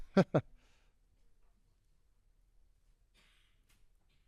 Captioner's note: giggles